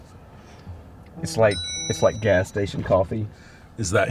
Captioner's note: phone pinging